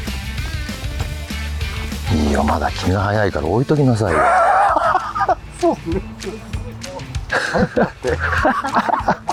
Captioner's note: laugh